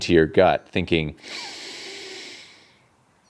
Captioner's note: inhales loudly